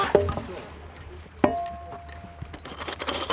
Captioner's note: metallic sound